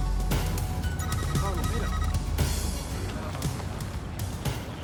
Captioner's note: type beeping